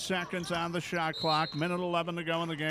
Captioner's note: referee whistling